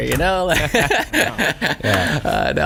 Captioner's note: laughter